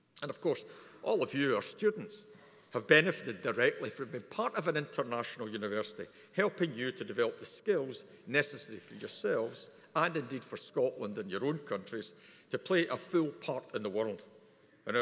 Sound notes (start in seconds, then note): none